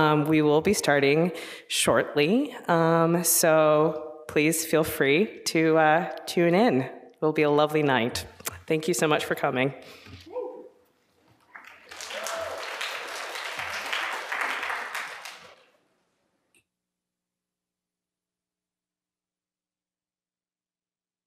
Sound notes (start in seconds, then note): 11.4 applause; 11.6 cheering